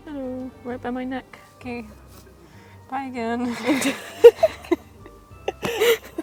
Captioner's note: laugh